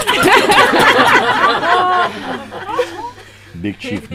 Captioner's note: laughter